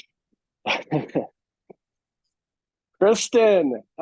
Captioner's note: laughing